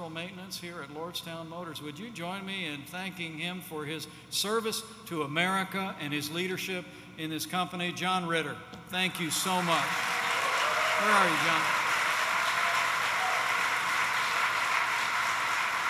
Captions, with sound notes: Maintenance here at Lordstown Motors. Would you join me in thanking him for his service to America and his leadership in this company? John Ritter, thank you so much. (applause) Where are you, John? Thanks you, John.